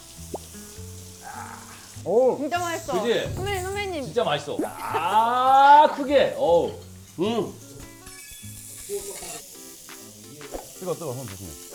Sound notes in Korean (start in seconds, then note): 4.6 하압; 7.8 셀프 박수